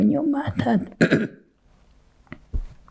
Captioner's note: clears throat